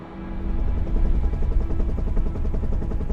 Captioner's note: helicopter blades whirring